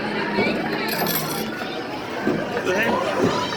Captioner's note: coin clattering